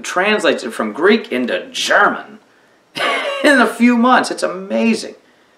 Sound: laughs

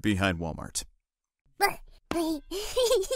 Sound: baby babble sounds

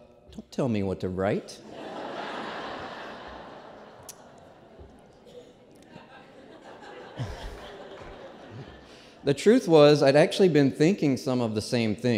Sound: laughter

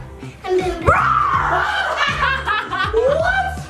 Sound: shouts

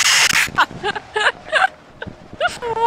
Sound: laughing

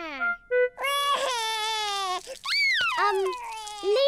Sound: crying

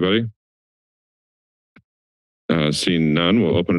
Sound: silence

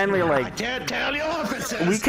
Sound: yelling

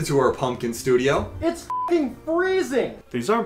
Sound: beep

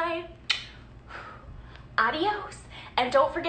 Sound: blowing kiss

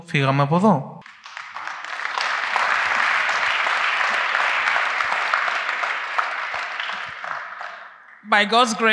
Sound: applause

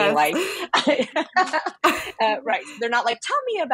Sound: laugh

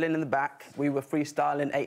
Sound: none

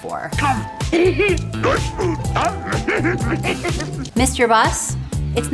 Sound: chuckling

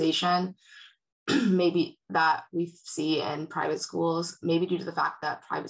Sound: clears throat

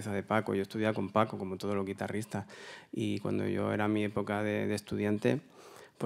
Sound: continues in Spanish

